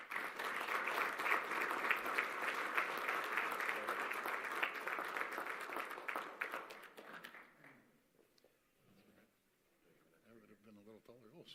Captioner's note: applause